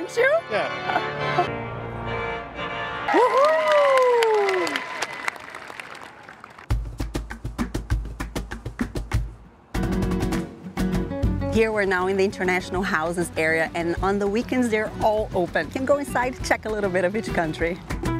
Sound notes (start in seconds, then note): 3.1 crowd applauding